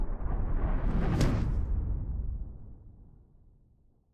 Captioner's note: logo slams